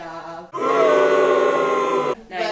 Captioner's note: booing in background